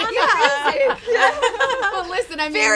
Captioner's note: all giggling; laughs